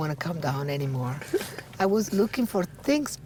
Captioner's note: chuckling